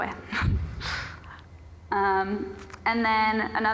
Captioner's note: breathes heavily